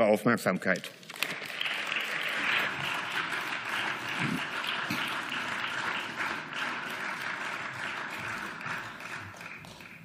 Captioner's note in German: Beifall